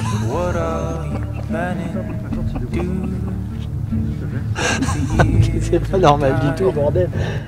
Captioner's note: laughing